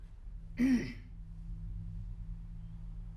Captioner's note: clears throat